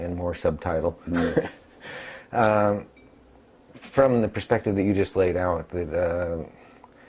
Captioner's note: laugh